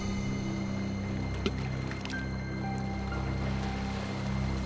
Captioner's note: necklace hitting water; scary music